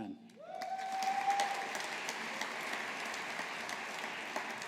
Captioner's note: audience applauding